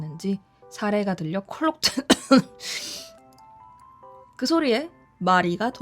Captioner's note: cough